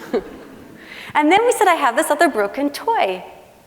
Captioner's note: laughing